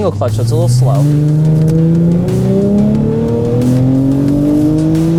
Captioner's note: engine revving